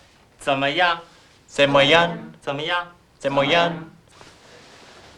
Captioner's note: speaking Chinese